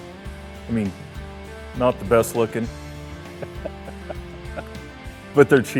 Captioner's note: laughs